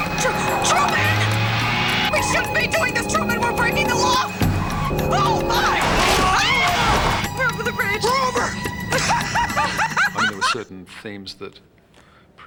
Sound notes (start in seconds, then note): 6.0 screams; 8.9 laughing